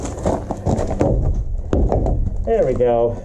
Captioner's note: kicks board